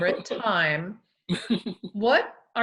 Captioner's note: laughs